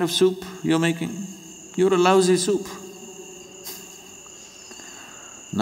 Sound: laughs

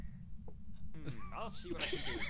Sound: everyone laughs

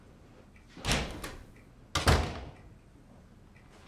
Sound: door opens, closes

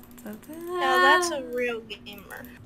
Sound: more mii humming

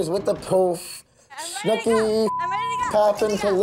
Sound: beep

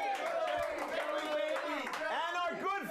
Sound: audience cheering

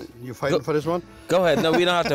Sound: laughs

